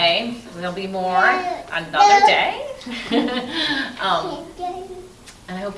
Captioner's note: laughs